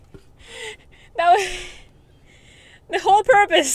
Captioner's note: laughs